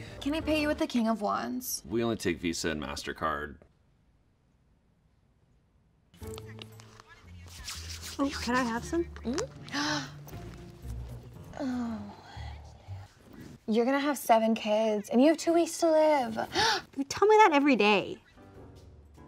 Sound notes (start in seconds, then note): 11.5 gasps; 16.5 gasps; 19.0 comical music